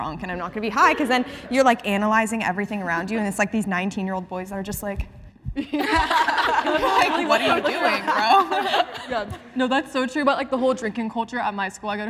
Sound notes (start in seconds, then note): 5.6 participants laughing